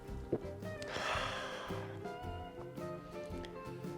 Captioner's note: satisfying sigh